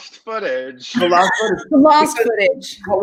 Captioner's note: group laughing